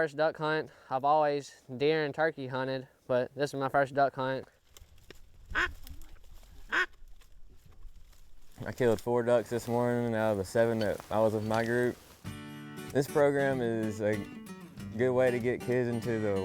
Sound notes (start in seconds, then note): 4.9 duck calls